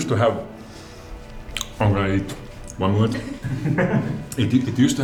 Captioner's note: laughter